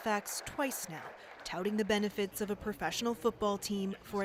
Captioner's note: applause